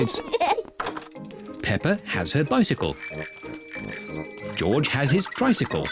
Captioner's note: both giggle; rings bell